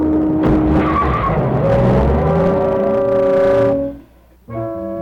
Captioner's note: tires screech as car drives off